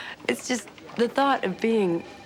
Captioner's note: laughs